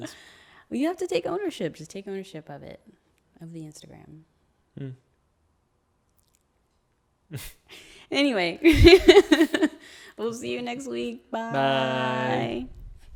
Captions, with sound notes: - Well, you have to take ownership, just take ownership of it, of the Instagram. Anyway... (laughs) we'll see you next week, Bye.